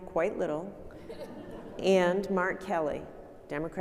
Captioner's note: audience laughing